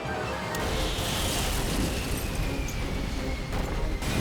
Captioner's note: explosions popping; metal crashing; explosion pounds